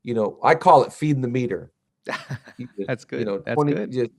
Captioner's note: laughs